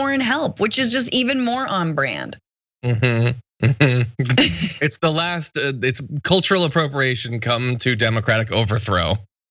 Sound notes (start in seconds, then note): 2.8 laugh